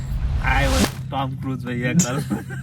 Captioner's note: laughing